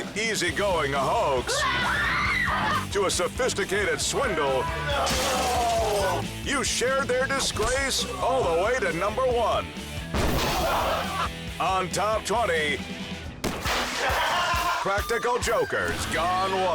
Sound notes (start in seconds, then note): 1.4 girl screams; 5.0 glass shatters; 10.1 bed thuds